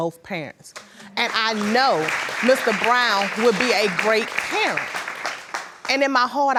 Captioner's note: applauding